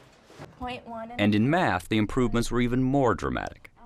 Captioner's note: voiceover